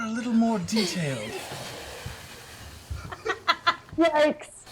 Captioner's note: laughter